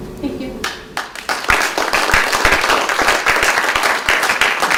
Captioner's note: applause